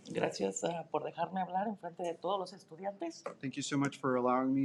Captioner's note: speaking in Spanish